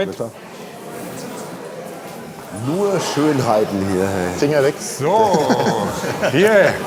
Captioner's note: laughing